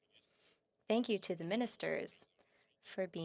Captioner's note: speaking French